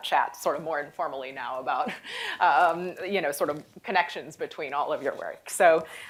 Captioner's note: chuckles